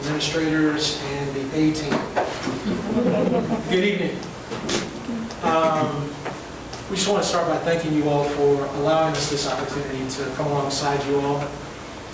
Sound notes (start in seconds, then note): 2.6 all laughing